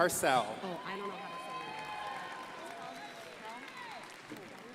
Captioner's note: crowd applauding